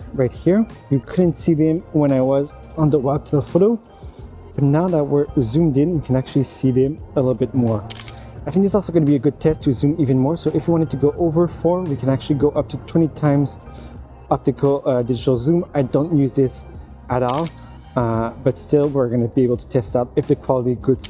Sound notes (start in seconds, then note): 7.8 camera clicking; 17.3 camera clicking; 20.8 camera clicking